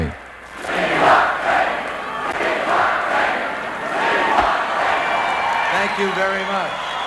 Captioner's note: cheering